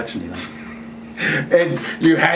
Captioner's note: laughing